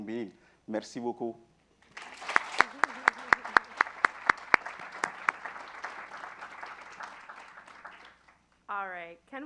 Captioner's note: applause